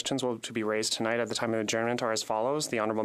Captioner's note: speaking French